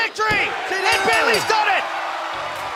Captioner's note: bell